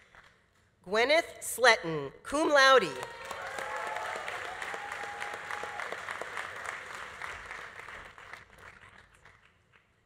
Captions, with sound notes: Gwenneth Sletten, cum laude. (audience applauding) (audience cheering) Congrats.